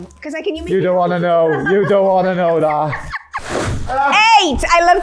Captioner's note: laughing